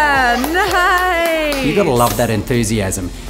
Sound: claps

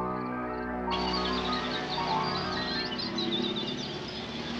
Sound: birds chirping; crickets chirping

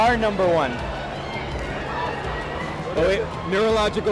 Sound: chattering

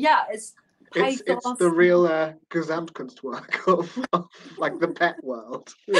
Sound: laughing

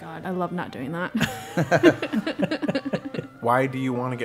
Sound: laugh

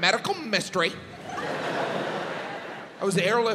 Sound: audience laughs

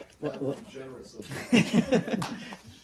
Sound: laughter

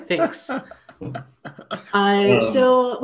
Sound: man laughing

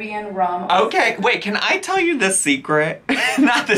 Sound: laughs

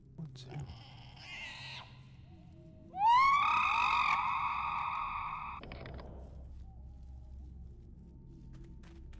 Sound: screaming

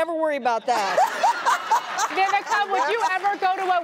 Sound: laughter

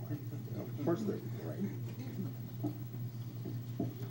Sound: crowd laughter drowns out conversation

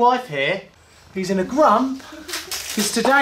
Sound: laughing

